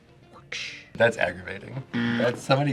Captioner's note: buzzer rings